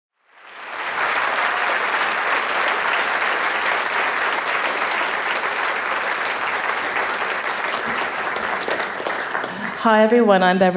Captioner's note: applause